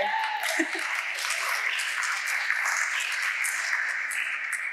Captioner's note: audience applauding